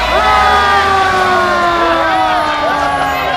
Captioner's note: siren blares